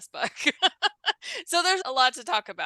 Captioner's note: laughs